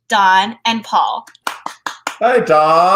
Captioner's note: clapping